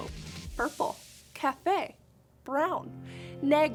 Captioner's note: speaking in Spanish